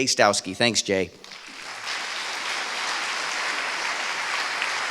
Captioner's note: applause